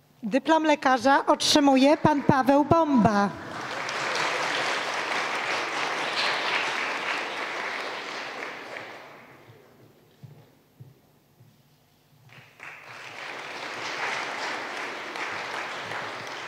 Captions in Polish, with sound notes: Dyplom lekarza otrzymuje Pan Paweł Bomba. [oklaski]